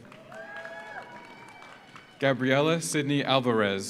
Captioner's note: audience applauds; audience cheers